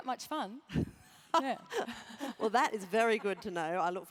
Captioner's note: laugh